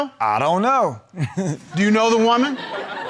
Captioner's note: chuckles